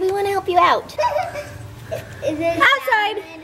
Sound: kids laughing

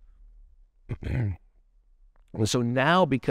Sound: clears throat

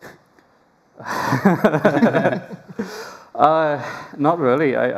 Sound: laughter

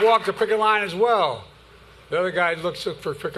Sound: applause

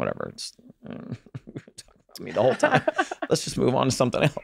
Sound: fake pouting; Megan chuckles

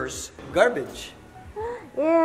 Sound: gasps

